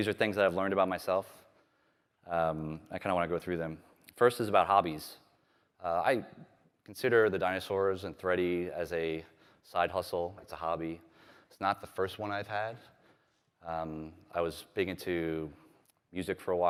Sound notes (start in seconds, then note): none